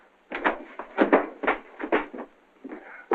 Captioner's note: none